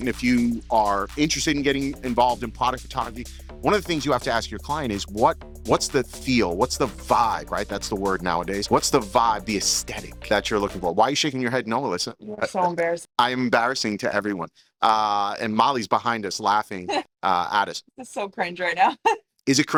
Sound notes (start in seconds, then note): 16.9 chuckling